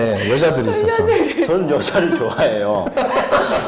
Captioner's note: indignant; laughing